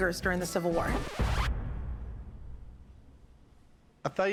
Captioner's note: record scratch